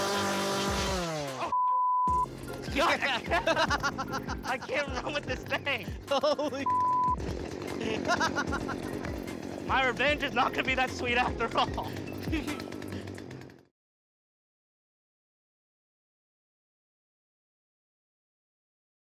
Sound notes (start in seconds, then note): 7.6 laughing